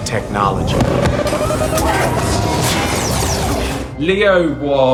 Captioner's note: machinery whirring